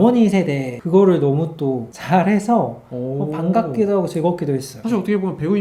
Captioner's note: dialect